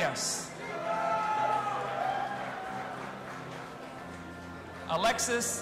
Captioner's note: audience applauding and cheering